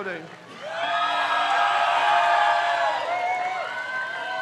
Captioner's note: crowd cheers